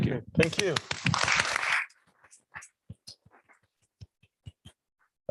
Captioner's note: applause